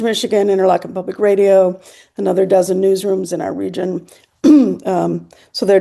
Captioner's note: clears throat